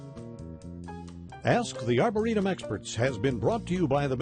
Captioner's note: male Voice